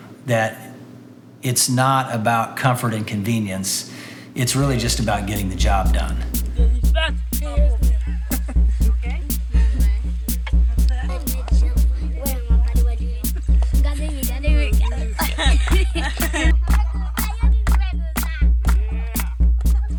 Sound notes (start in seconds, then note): 9.8 chattering and laughing; 15.9 clapping